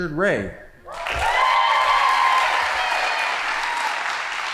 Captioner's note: audience applauding